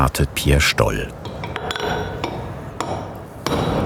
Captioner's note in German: Metallische Laute